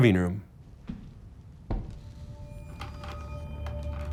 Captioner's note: thudding